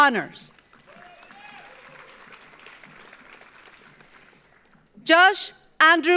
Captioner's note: audience applauds; audience cheers